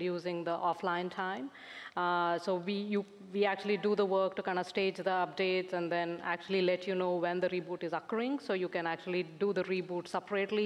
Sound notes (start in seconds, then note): none